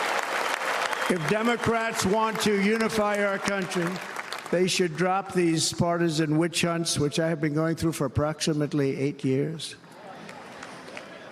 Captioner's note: cheers and applause